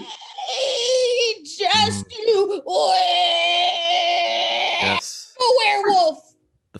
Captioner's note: creaking, gasping; screeeching